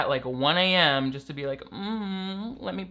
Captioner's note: moans